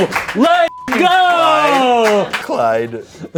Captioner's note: beep